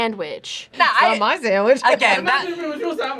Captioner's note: laughs